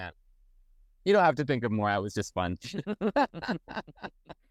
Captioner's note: laugh